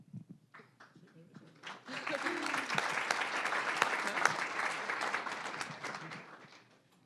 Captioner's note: applause